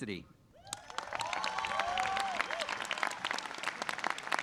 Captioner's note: audience claps